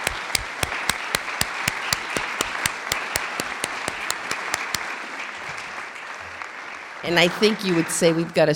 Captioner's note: clapping